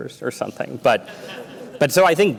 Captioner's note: laughter